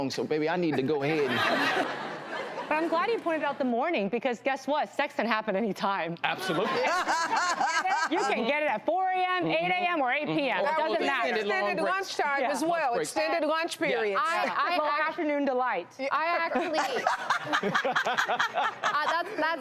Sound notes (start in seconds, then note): 0.8 audience laughs; 6.3 audience laughs; 6.5 Vivica laughs; 10.8 hosts and guest agreeing; 16.6 laughs